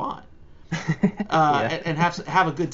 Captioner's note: laughs